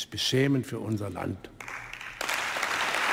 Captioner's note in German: Beifall im ganzen Hause